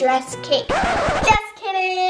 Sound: record scratch

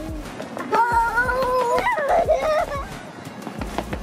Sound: giggling

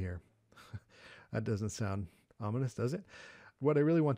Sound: chuckles

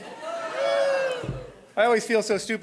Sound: crowd

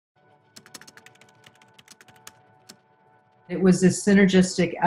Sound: soft music; keyboard clacking

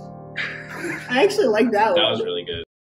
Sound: laughter

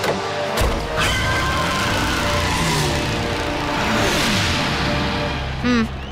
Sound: tires squealing

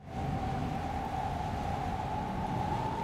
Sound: wind blowing

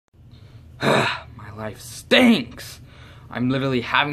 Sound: moans

